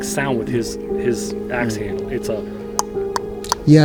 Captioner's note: imitating knocking